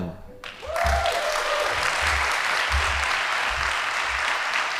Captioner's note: audience applauding